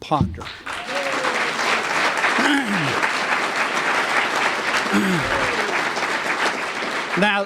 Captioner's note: applause